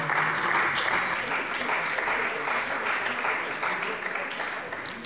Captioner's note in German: Beifall bei der CDU und dem BÜNDNIS 90/DIE GRÜNEN